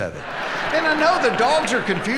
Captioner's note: audience laughing